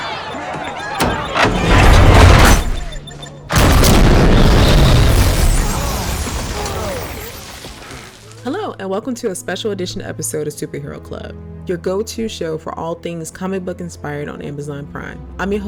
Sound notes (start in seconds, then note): 0.1 bystander screams; 0.4 car thuds; 3.5 explosion booms